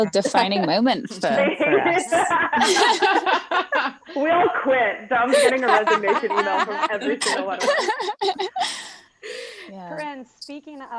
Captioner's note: laugh